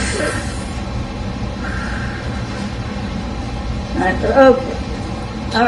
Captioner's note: inhales and blows